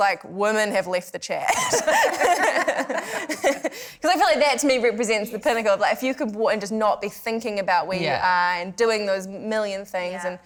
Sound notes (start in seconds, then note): 1.5 laughter